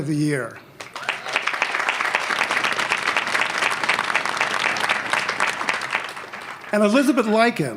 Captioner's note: applause